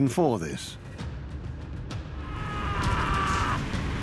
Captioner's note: screaming